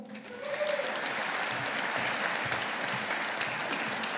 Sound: audience applauding

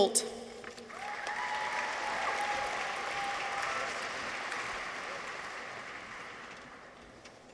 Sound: people cheer; audience applauds

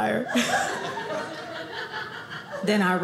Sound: audience laughing

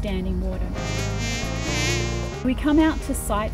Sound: mosquito buzzing

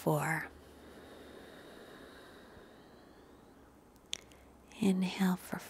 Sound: deep nasal exhalation

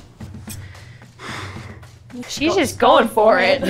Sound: sighs

